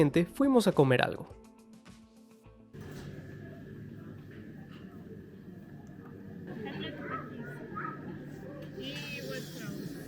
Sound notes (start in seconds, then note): 2.7 restaurant sound